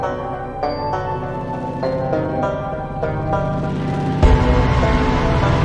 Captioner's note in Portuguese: sons distorcidos